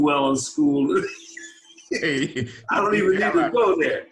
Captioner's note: laughing